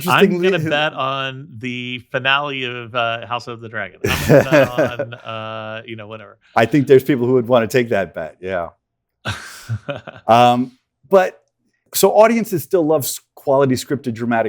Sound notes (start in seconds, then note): 9.2 laughing